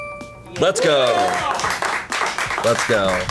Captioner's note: colleagues applauding